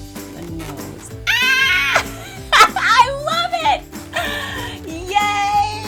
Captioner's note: laughs